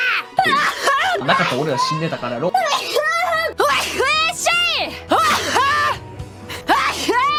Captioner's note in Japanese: くしゃみ